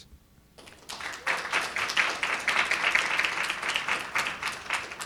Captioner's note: audience applauding